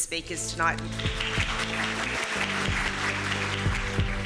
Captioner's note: applause